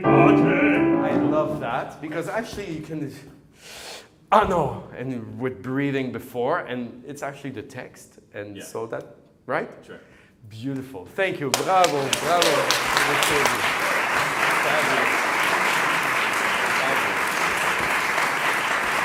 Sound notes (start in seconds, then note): 0.0 piano and singing in foreign language; 11.5 applause